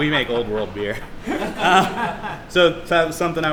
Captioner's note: laughs